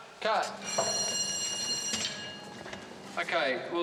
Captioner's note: bell Rings